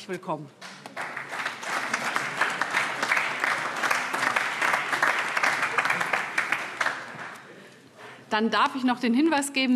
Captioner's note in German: Beifall CDU, AfD, Freie Demokraten und vereinzelt SPD